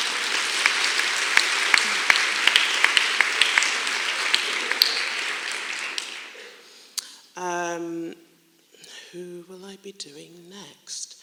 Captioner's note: clapping